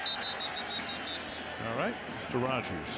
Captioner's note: whistle